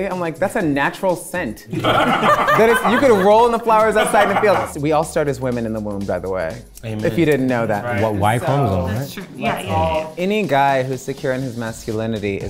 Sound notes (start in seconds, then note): 1.7 everyone laughing